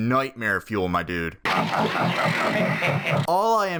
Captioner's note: maniacal laughter